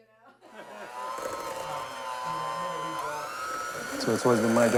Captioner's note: mixer whirring